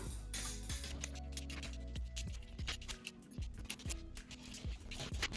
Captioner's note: pieces clicking